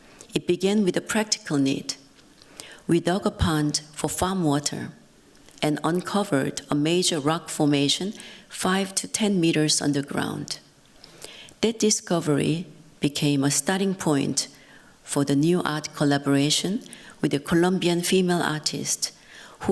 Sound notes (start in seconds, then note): none